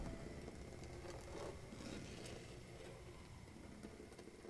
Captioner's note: scraping